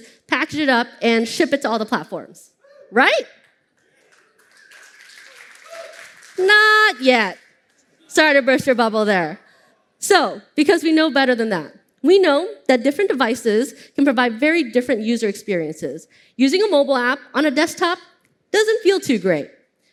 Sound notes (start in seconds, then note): 3.9 applause